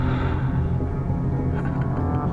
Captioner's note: man breathing